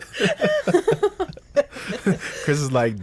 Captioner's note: group laughs